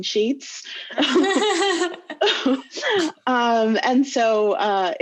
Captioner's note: laughing loudly